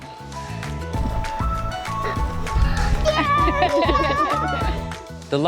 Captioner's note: cheering and laughing